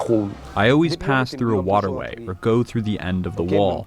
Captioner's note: through translator